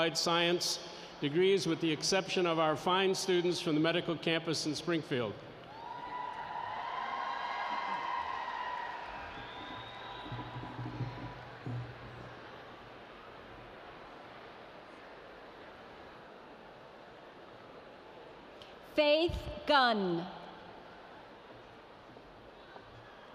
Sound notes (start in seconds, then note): 5.6 cheering; 5.6 cheering in the background for the graduates